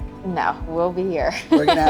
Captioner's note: laughs